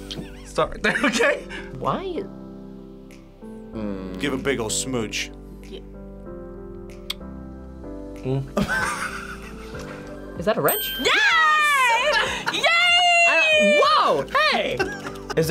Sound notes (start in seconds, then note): 1.4 laughs; 8.6 laughs